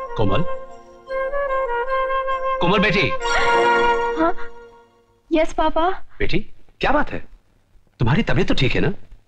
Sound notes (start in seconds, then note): 3.4 gasp